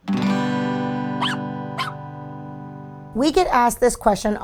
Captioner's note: guitar strum; dog barking